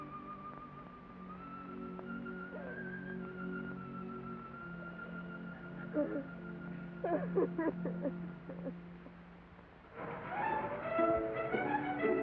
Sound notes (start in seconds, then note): 0.0 sad music; 7.0 Nona weeps; 9.9 whimsical music